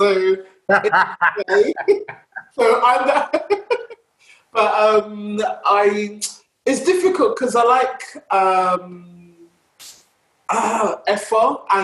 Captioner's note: laughs